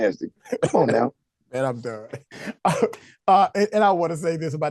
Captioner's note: laugh